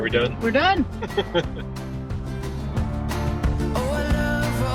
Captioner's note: chuckling